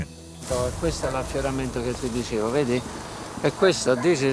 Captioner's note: speaking Italian